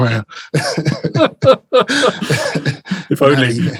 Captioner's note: laughs